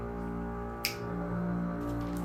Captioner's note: finger snap